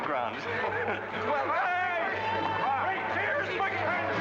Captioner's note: men joking and chattering